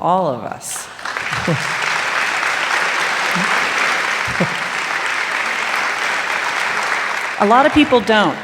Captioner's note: applause